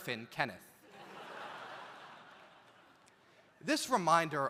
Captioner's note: audience laughs